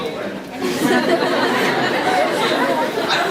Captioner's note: laughs because of the witty sentence